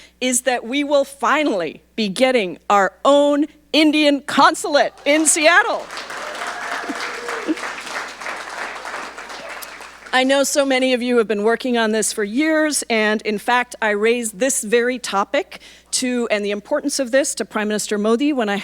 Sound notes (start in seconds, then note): 4.8 audience applauding